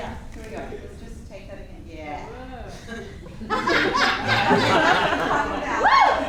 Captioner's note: audience laughing